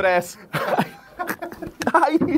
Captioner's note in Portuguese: risadas